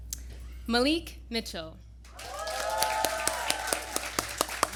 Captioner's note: applause